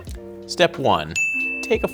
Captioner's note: dinging